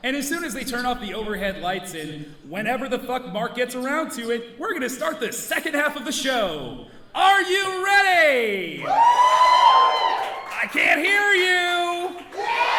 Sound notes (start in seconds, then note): 8.7 audience cheering